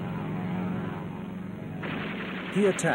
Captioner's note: gunshots